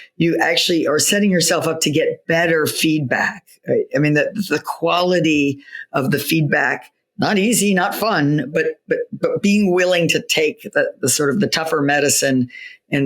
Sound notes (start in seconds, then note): none